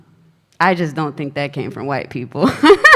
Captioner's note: laughs